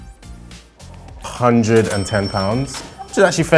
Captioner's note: bell ringing